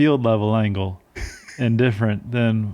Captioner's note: laughing